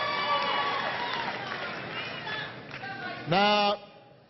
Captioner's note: applause